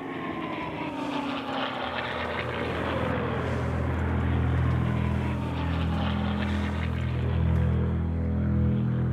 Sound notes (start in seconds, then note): 0.0 planes whir; 7.5 suspenseful music